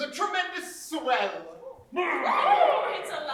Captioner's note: pubagh growls